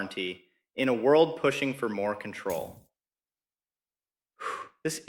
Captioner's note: exhales